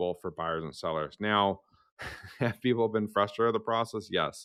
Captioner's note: chuckles